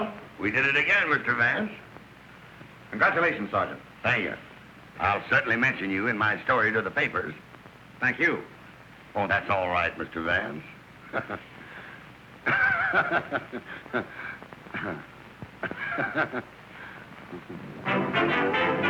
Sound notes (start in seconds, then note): 12.4 laughter; 12.4 chuckling